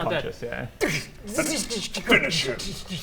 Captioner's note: zzrchhsstcchtszzchsh